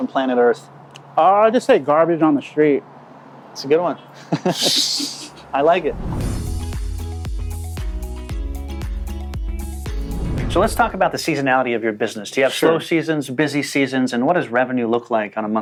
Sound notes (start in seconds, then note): 4.1 men laugh; 6.9 upbeat transition music